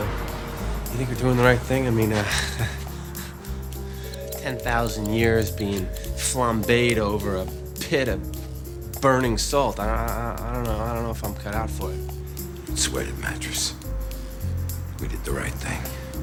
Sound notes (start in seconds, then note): 4.7 chuckles